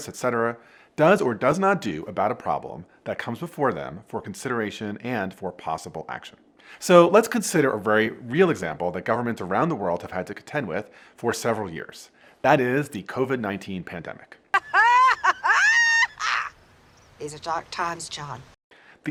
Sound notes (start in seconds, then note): 14.5 laughing maniacally